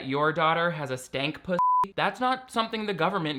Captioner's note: beep